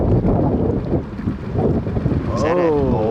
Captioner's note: loud wind gusts